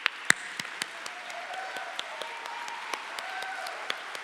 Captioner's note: audience applauds